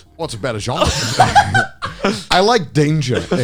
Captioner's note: all laughing